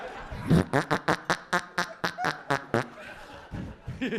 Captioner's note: audience laughing